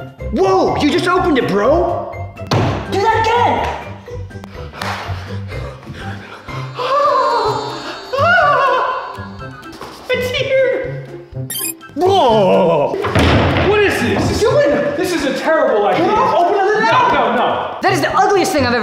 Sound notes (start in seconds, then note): 8.9 gasps